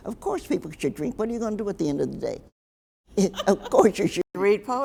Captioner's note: laughs